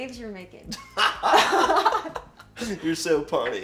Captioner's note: both laugh